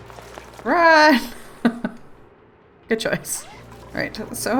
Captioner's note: laughs